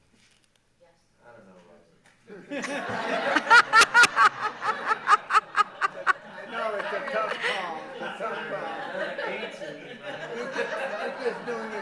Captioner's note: laughter